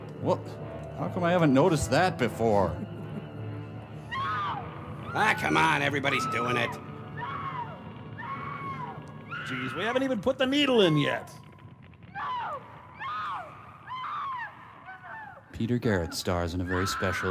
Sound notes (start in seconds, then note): 3.9 sobbing